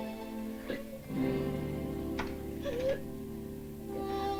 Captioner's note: sobs